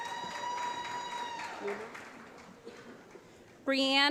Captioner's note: applause